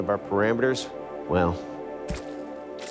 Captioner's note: squelching